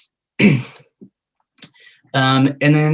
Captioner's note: clears throat